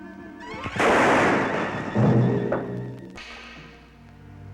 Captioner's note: gunshot bangs